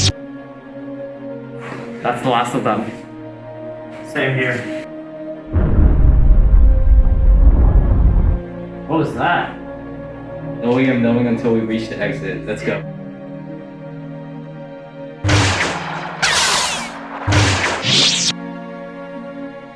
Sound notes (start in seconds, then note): 5.5 distant Crash